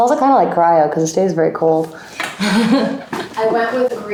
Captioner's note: chuckles